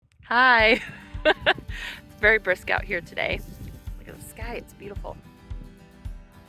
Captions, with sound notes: Hi. [laughing] It's very brisk out here today. Look at the sky. It's beautiful.